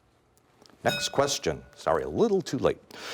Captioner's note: bell rings